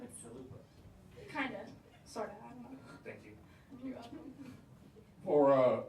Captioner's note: laughter